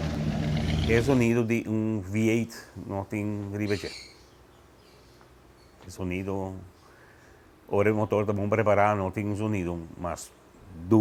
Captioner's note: engine